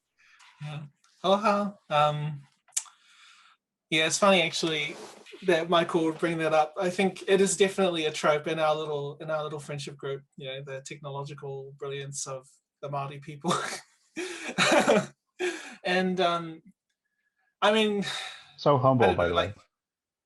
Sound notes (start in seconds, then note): 14.2 laughs